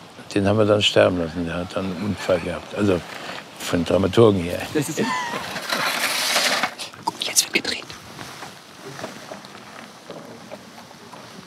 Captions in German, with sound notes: Den haben wir sterben lassen, der hat einen Unfall gehabt. Also, von den Dramaturgen her. (Lachen) Uh, jetzt wird gedreht.